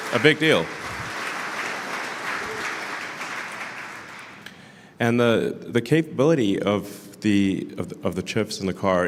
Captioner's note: Applause; 掌声